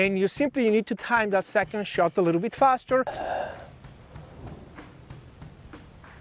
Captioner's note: huffs